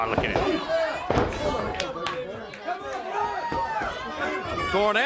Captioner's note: crowd chatter